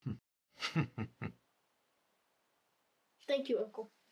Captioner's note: grandfather chuckling